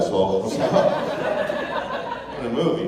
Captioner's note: laughter